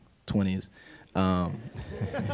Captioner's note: laughter